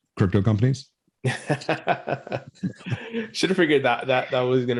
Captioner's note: both laughing